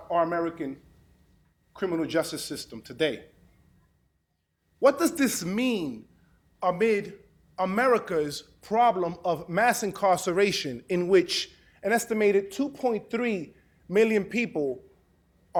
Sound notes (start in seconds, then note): none